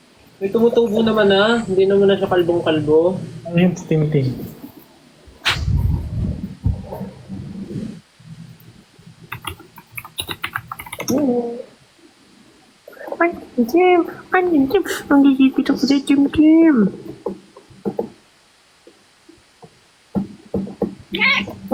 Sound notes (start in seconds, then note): 15.7 talks in a cute way